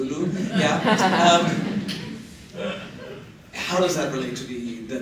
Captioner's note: laughter